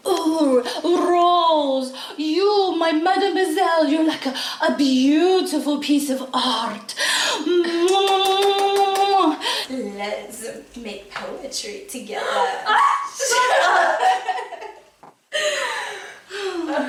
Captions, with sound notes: Oh, Rose, you my Mademoiselle, you're like a beautiful piece of art. [KISSING SOUNDS] Let's make poetry together. Ah! Shut up. [LAUGHTER]